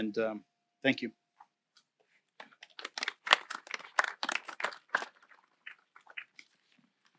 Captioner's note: applause